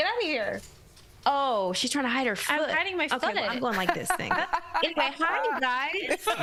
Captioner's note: laughter